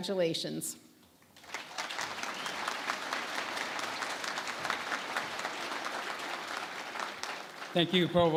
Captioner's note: applause